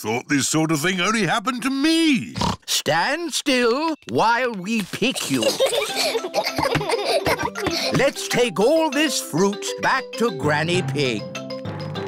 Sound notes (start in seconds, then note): 2.3 snorts; 5.0 children giggle